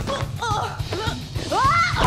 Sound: girl groans; April shouts

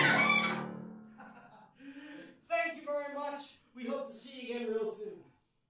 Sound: chuckles

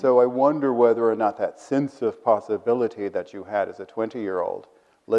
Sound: none

